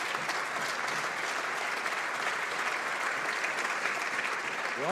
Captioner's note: some Applause